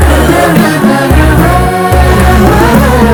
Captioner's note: moaning